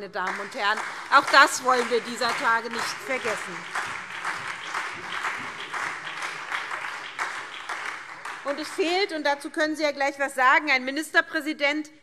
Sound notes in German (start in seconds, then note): 4.1 Beifall SPD und Freie Demokraten